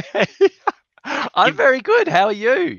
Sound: both laughing

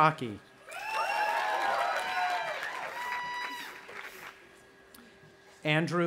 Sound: audience applauding and cheering

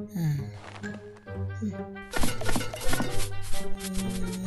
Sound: slurping; cans clanking

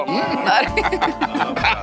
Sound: laughing

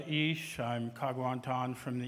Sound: speaking indigenous language

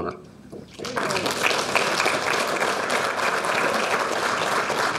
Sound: audience applauding

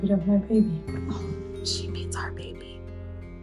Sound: whispering

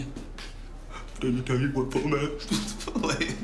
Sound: mocking

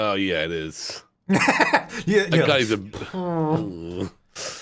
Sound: laughing

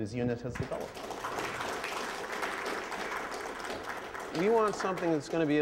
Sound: applause

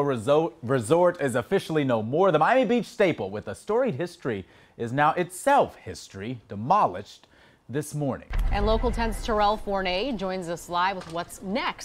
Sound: explosion

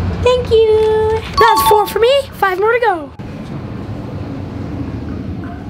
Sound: none

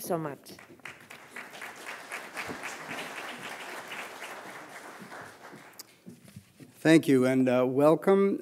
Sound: applause

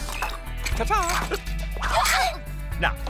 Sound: all scream

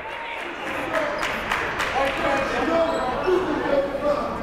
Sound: shouting

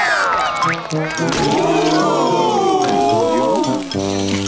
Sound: cheering; ooo-ing

